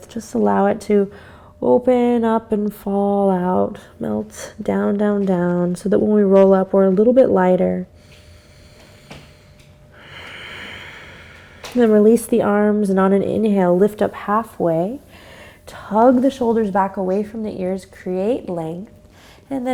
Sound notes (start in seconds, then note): 8.2 deep breath